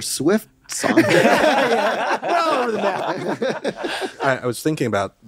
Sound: all laughing and chattering

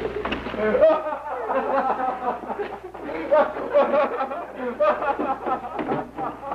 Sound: laughter

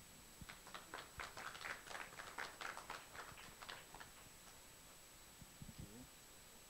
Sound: applause

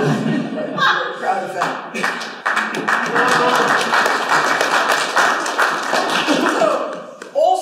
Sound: laughter; laughter and applause

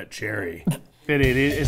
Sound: snorts

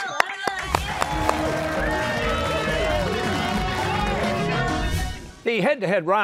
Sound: cheers and applause

